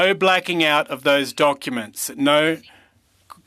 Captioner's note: speaking french